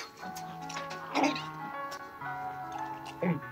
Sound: gulps

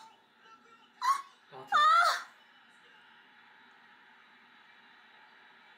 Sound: That moment of silence when Korea lost a point

